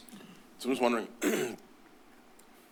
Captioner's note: clears throat